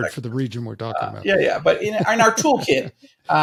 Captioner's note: chuckling